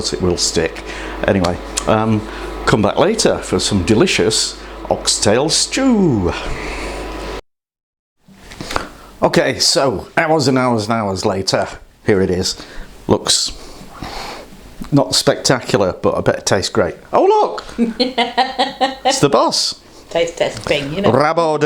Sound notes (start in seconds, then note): 17.6 laughs